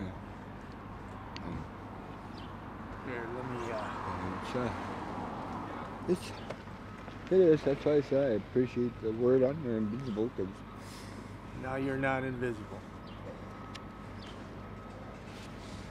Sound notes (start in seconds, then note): 6.8 car passing